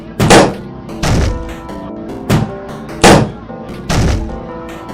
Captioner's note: popping, banging noises